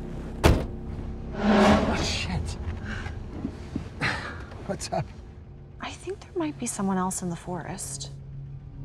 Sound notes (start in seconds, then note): 4.0 laughs